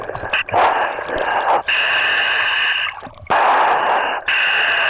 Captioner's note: breathing heavily